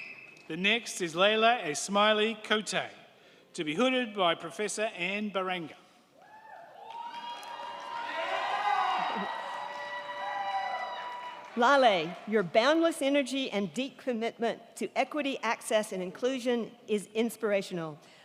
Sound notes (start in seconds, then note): 6.2 crowd cheering; 6.8 crowd clapping